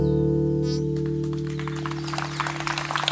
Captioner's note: applause